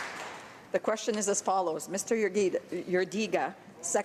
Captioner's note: some Applause